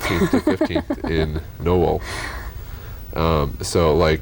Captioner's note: laughter